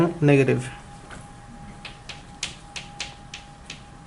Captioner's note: voiceover